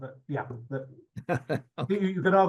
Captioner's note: chuckles